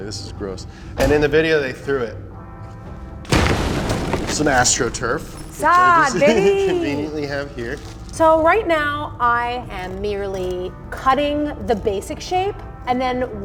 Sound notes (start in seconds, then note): 3.2 floor mat explodes